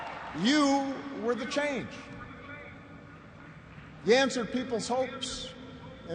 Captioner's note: cheers and applause